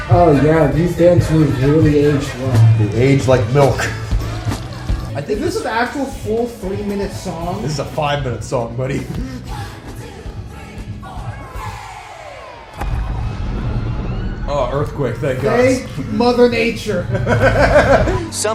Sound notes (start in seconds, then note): 14.5 earthquake noises